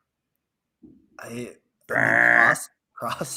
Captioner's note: vocally buzzing